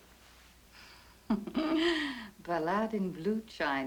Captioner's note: giggles